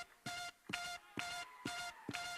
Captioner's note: clap